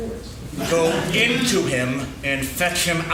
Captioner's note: laughing